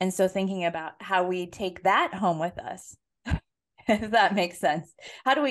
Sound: laugh

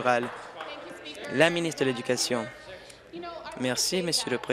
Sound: applause

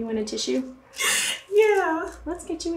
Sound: inhales sharply

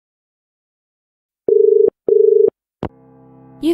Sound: dial tone

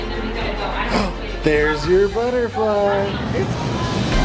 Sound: gasping

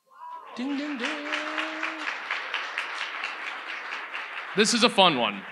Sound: audience applauds

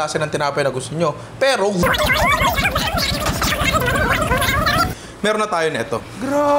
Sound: timelapse sound effect

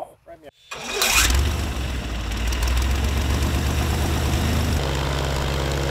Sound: engine engages and revs

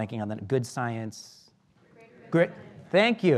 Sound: murmurs

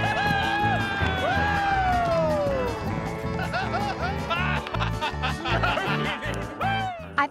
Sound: cheering, clapping

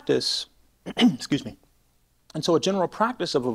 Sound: clears throat

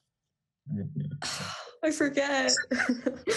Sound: laughs

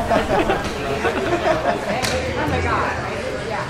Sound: laughs

